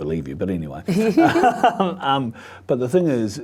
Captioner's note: both laughing